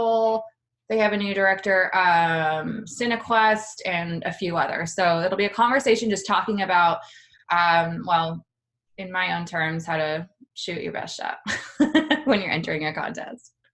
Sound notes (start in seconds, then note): 11.1 laughs